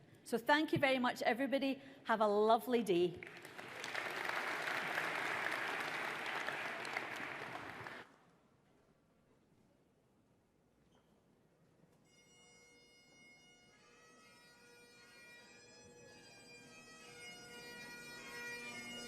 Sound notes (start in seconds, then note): 3.2 audience applauds; 12.1 bagpipes play